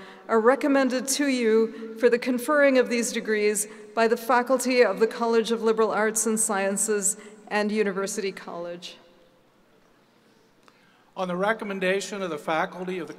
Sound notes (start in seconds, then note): none